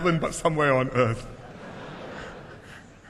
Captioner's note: laughter